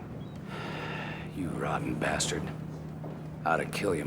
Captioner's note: sighing